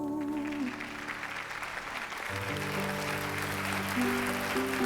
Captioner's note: cheering